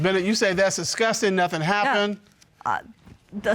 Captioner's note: stammers